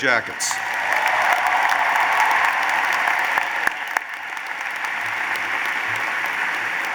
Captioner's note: applause